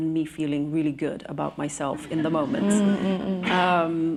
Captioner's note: laughter